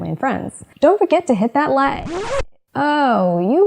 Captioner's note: record scratch